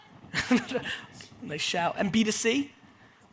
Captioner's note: laughs